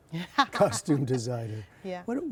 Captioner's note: laughter